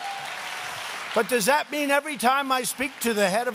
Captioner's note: applause